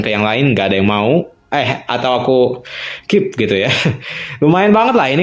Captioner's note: laughs